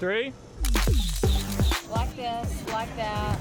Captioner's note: camera clicking; upbeat music